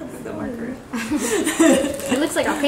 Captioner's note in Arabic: يضحك